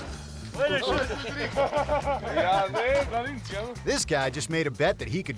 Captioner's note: men speaking in foreign language